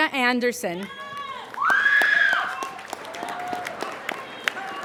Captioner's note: applauding